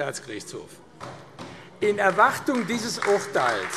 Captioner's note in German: Beifall AfD